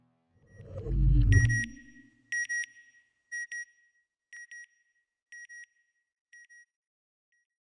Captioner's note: beeping